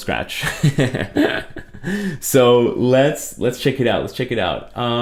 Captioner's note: laughs